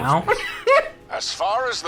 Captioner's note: laughing